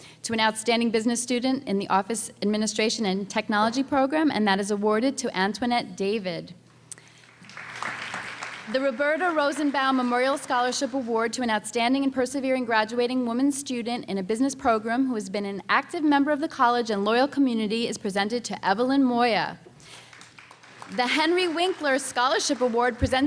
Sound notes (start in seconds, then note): 7.1 applause